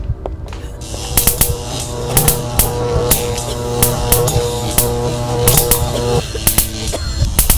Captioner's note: tense music; electricity buzzes; Linda chokes